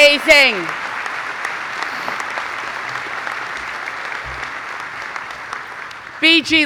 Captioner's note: clapping